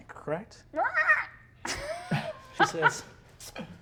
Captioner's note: caws